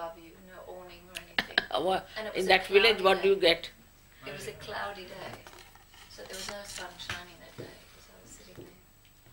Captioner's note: shri mataji laughs